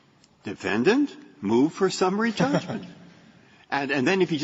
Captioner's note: laughter